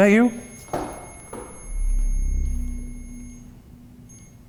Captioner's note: REM-POD beeps